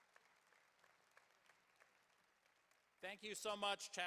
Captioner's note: applause